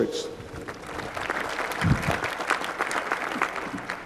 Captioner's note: applause